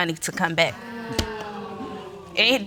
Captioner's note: audience exclaiming